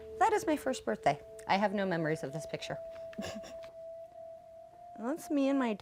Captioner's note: laughs